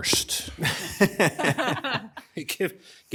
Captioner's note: members chuckle